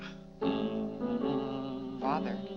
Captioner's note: Mr. Day hums